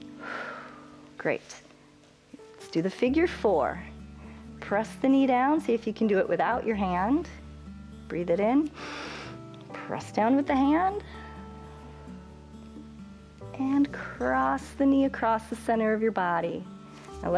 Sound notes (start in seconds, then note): 0.1 exhales; 8.7 inhales